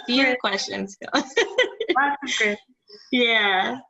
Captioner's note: laughs